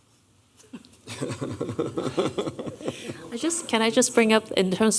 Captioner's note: laughter